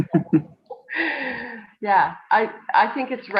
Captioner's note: laughs